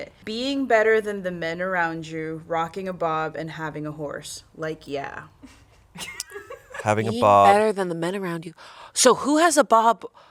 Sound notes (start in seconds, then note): 6.0 crew laughs